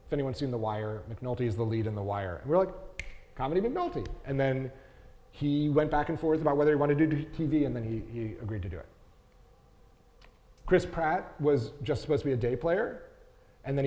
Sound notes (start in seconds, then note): 2.9 fingers snapping